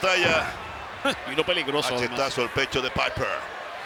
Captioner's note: laugh